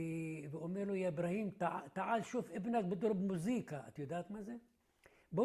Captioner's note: Arabic